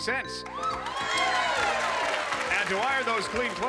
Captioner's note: cheering and applause